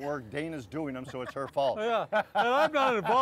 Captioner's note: laughing